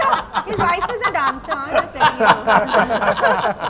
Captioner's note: laughs